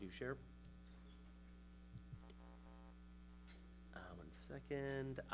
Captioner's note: mic humming